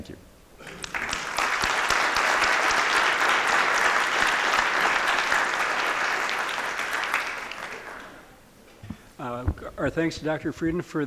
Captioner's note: applause